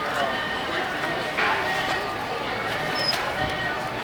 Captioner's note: city bustling